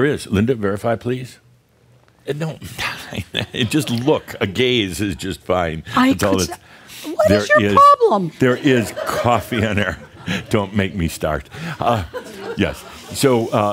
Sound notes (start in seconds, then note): 6.6 more chuckles; 11.8 Adamus chuckles